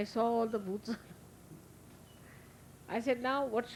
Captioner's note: Shri Mataji laughing